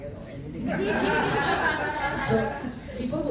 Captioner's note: laughter